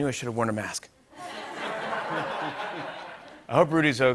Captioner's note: laughter